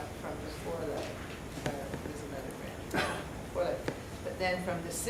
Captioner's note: audience member coughs